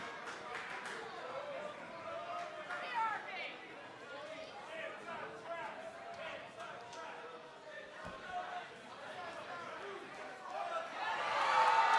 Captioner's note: fans chanting; cheers and applause